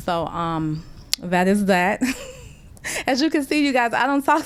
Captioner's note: laughter